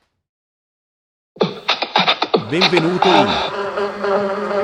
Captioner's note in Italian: Applauso